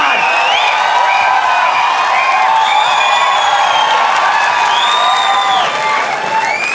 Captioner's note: crowd applauding